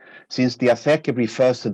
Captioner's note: speaking in a foreign language